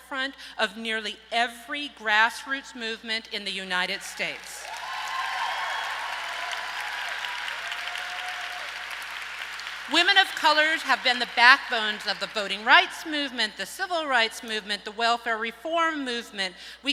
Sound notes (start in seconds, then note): 4.6 audience applauds and cheers